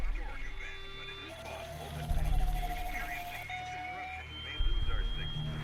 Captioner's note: heavy static